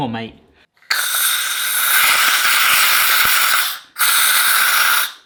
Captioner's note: bottle whizzing